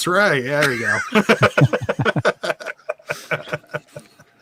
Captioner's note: laughs